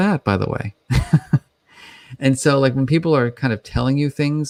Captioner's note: chuckles